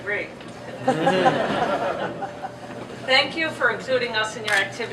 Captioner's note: laughter